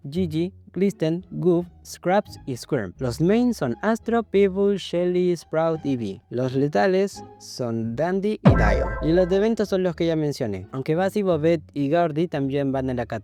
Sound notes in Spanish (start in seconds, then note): 8.4 efecto sonoro de explosión